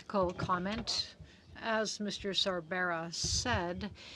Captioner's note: speaking french